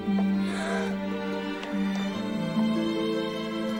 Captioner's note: Heidi gasps